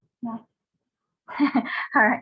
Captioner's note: laughing